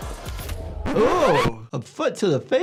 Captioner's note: record scratches